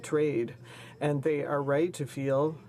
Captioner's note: speaking in french